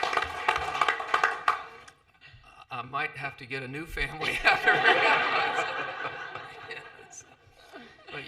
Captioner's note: laughter and applause